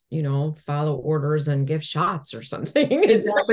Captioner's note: laughs